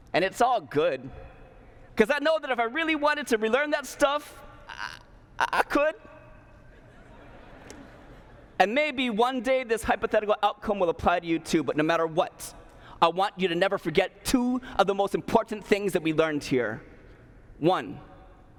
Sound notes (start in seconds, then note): 6.6 laughter